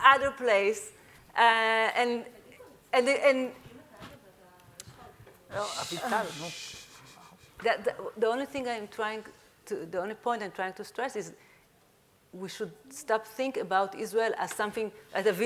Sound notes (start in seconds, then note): 3.6 speaking faintly; 6.3 speaking in Hebrew